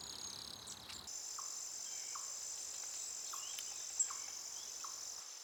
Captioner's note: insects buzzing